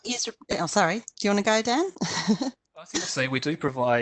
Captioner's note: chuckles